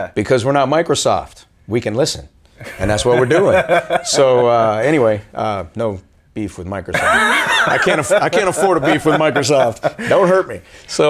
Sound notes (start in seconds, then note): 2.6 laughing